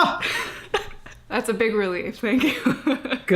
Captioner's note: chuckles